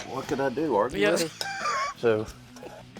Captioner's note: laughs